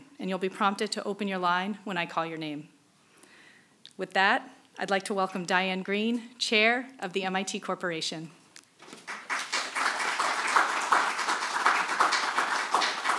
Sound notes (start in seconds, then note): 8.9 applause; 8.9 clapping